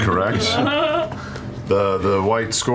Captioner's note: laughter